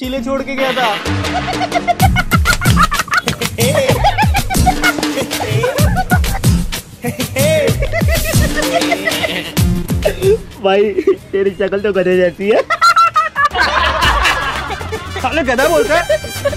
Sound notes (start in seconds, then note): 1.1 laughing; 12.5 laughing